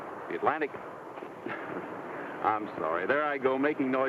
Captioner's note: laughs